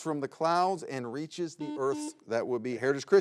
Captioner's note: button blips